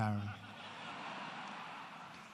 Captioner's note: laughter